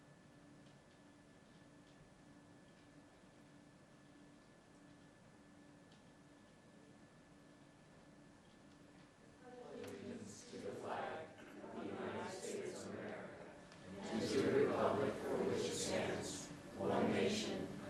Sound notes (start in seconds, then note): 0.6 moment of silence